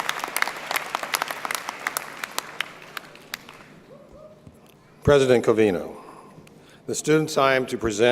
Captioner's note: applause